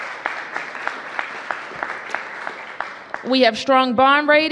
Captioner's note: applause